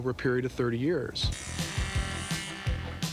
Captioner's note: saw whirring